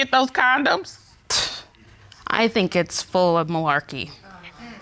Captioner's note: scoffs